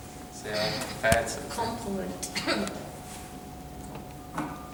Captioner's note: Sarah-Jane coughs